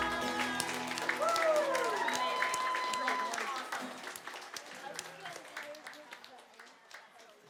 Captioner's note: applause